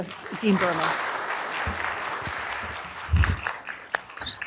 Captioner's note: applause